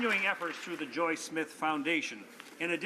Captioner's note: some Applause